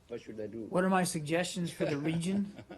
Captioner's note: laughter